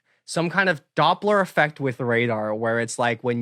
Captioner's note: none